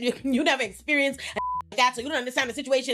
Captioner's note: beep